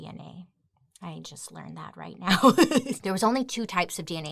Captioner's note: laughs